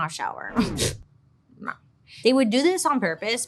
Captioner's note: snorts